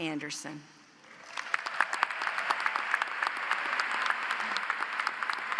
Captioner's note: audience applauds